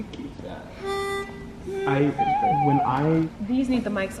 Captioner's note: hums note